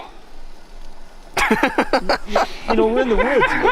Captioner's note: laughing